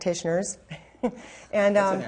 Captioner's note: chuckles